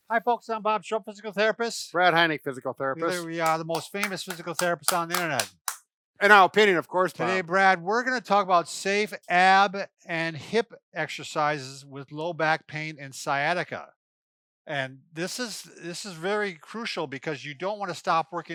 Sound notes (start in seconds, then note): 5.6 hands clapping